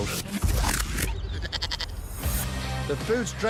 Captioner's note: music rewinds; goat bleats